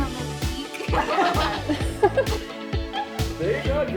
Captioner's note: risas